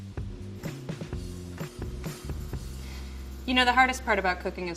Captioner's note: microwave humming